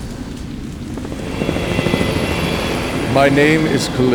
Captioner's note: helicopter passing